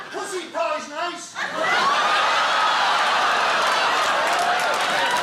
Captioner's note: audience laughing